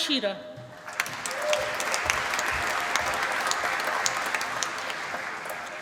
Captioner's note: applause